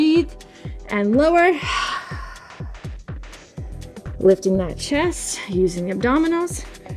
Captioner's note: exhales